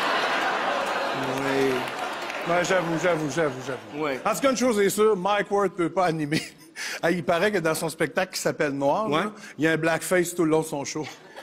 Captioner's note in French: applaudissements